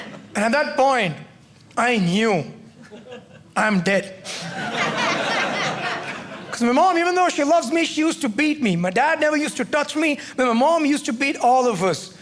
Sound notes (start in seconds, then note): 4.3 audience laughing